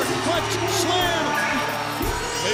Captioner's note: bell ringing